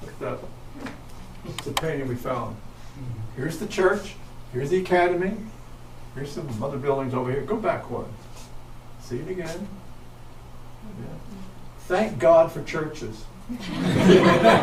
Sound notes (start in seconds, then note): 13.6 audience laughs